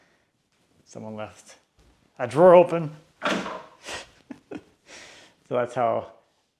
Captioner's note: chuckles